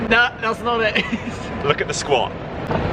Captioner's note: laughing